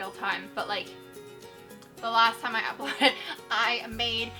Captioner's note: chuckles